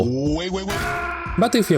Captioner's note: bonk